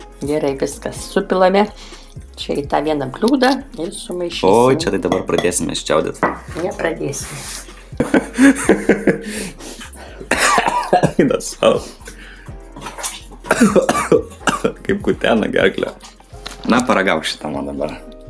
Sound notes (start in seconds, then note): 13.2 coughing in Lithuanian